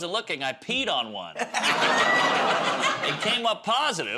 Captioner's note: laughter